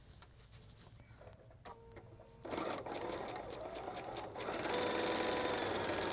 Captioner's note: sewing Machine Whirring